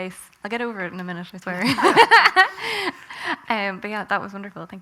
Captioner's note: loud laughter